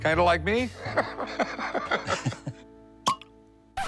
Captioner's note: laughs; cork popping